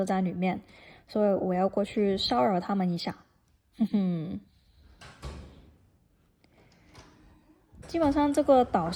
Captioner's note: door closing